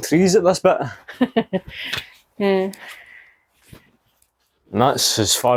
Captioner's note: laughter